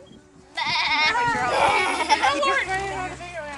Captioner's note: lots of BAAA-ing